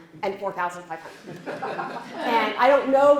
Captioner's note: laughter